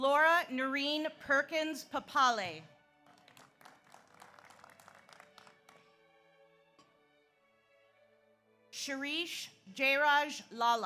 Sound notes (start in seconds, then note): 3.0 audience applauds